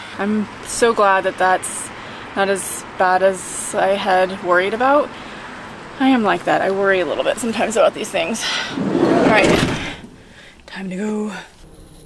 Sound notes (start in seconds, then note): 8.7 door closing